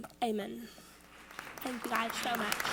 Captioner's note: audience applauds